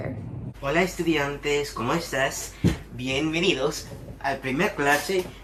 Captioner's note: teacher speaking in Spanish